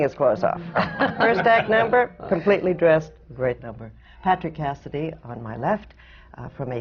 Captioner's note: laughs